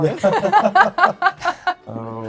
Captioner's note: laughing